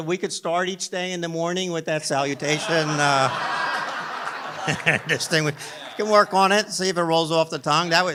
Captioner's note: laughter